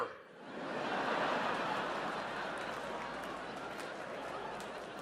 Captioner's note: audience laughs